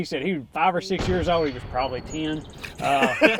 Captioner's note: gunshot fires